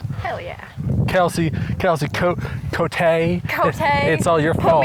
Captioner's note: in a Southern accent